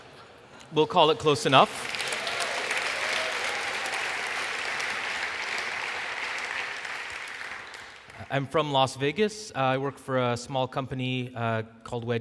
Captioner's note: applause